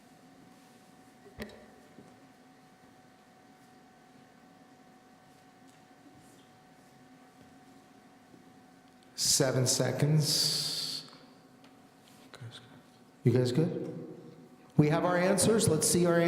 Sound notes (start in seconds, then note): none